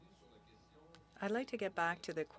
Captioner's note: speaking French